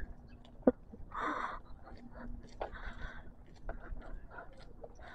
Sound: heavy breathing again, because why?

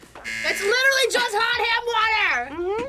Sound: buzzer rings

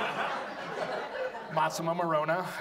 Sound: audience laughs

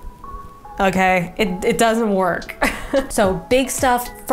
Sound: chuckles

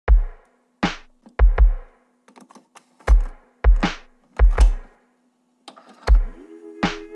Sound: cassette loading and playing

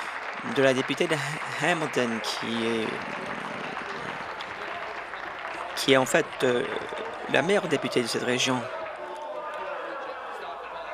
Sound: applause

